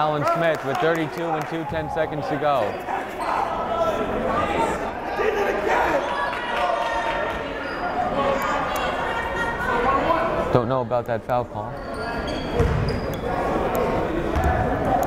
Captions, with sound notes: Foul is called on Alan Smith with 32.2 seconds to go (yelling) Don't know about that foul call.